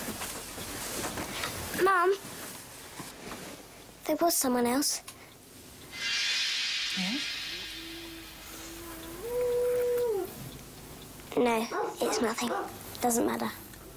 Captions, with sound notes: - Mom, there was someone else. (mystical music) - Hmm? (dog howling) - No, it's nothing, it doesn't matter.